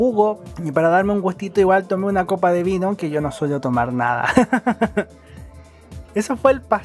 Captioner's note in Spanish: risas